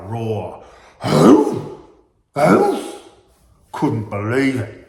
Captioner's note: making roaring effect